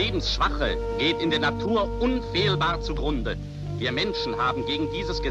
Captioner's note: man speaking german